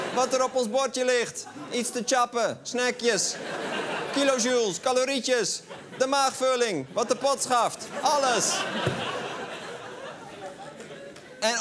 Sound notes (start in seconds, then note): 3.2 laughter; 7.7 laughter